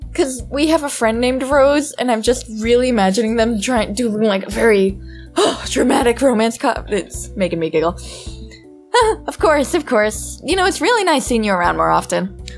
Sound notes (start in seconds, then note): 5.1 huff